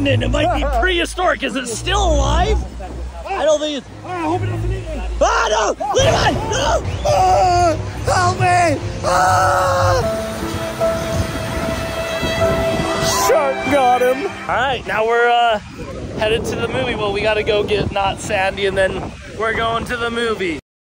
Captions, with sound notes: It might be prehistoric. Is it still alive? I don't think it's, - I hope it doesn't eat me. - Oh no. Levi. No. - (screaming) Oh no. Help me. (sad music) - Shark got him. All right, now we're headed to the movie. Well, we gotta go get not sandy, and then we're going to the movie.